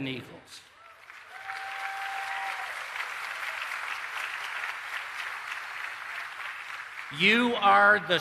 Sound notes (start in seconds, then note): 0.7 applause